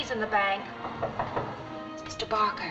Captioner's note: knock at door